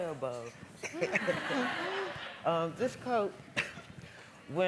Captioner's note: laughing